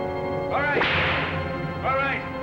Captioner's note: whip cracks